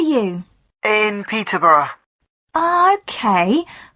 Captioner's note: on phone